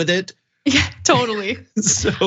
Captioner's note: laugh